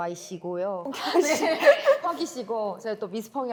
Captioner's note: ㅋㅋ